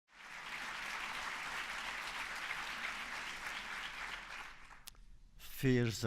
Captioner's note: applause